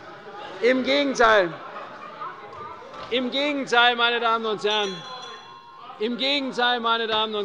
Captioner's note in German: Lachen bei der SPD und der FDP - Glockenzeichen des Präsidenten